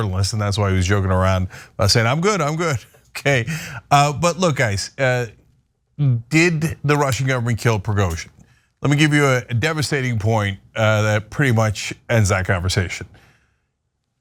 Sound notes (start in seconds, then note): 3.1 laugh